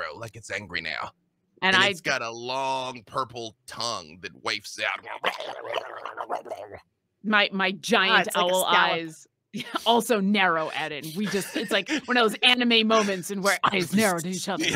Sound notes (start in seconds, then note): 4.8 growls